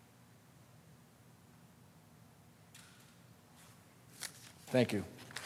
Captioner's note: moment of silence